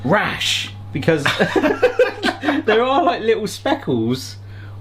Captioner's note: both laughing